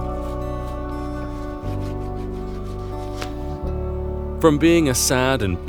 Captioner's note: sandpaper scrapping